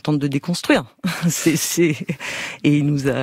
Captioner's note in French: rires